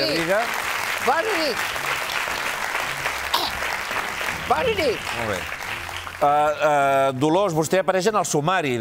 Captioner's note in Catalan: aplaudiments